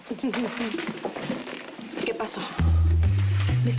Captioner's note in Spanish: Ríe